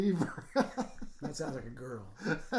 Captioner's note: laughing